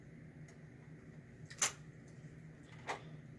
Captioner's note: click